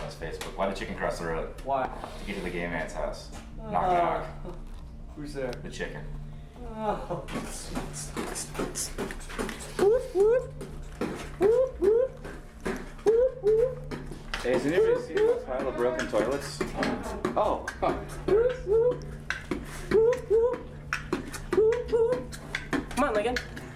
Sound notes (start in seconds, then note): 8.5 beatboxing; 19.3 beatboxing